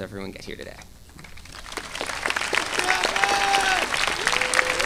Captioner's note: audience applauding